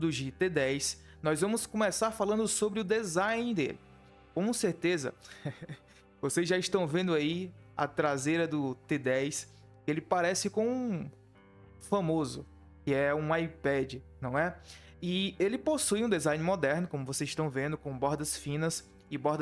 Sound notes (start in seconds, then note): 5.3 laughter